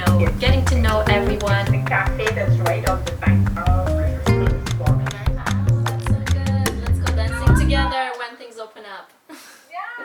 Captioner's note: muffled chatter from the video call